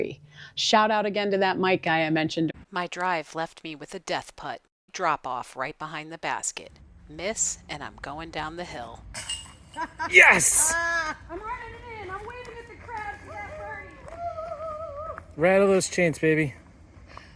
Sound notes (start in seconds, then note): 9.1 chains rattle; 14.3 laughing and cheers